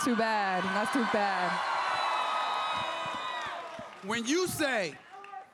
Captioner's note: crowd cheers